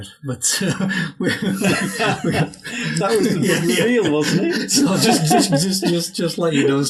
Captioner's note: speakers talking and laughing over each other